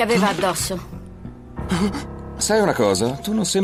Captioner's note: gasps